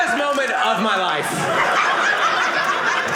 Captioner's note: audience laughing